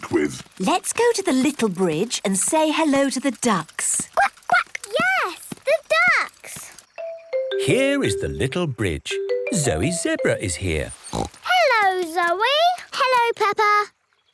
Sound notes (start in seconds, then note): 0.0 snorts; 10.8 snorts